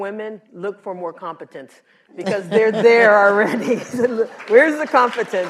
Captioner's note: laughter